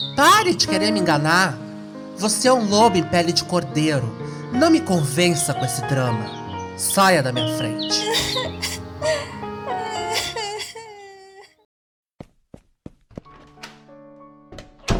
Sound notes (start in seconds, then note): 7.9 Ana cries